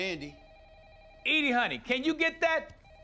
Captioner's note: telephone ringing